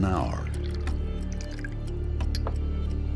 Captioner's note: pouring liquid